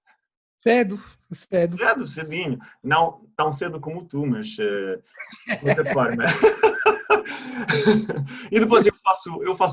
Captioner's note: laughter